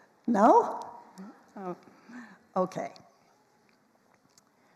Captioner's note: none